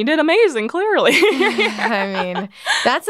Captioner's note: laughs